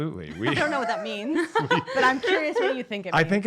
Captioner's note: laughs